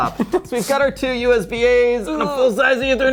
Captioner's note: groaning